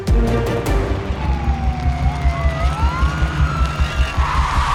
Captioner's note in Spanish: Sirena de patrulla